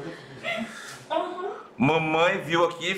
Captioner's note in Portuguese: risos; mamãe chorando e rindo